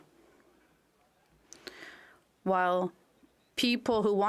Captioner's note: speaking French